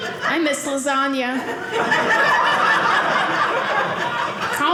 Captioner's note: audience laughing